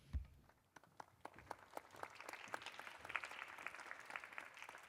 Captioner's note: applause